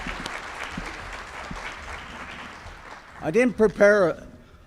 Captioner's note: applause